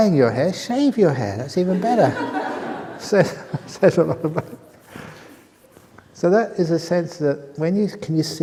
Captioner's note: laughter